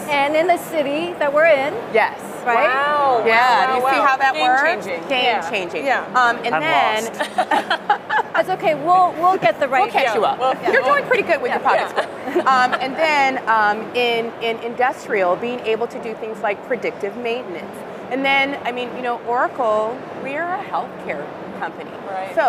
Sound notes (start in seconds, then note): 7.1 laughter